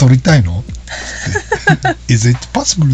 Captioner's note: laughs